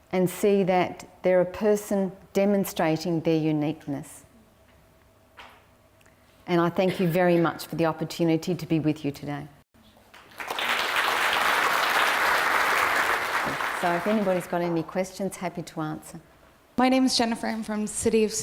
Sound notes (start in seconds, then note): 10.1 applause